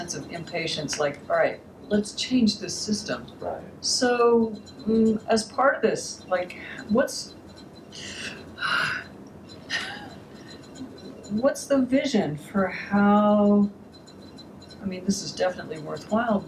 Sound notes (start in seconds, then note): 8.3 sighs; 9.7 laughs